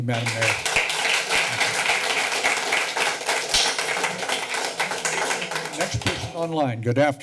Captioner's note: clapping